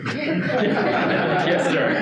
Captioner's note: audience laughing